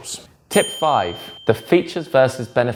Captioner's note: bell dings